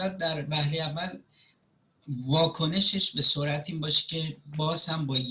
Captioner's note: speaking Farsi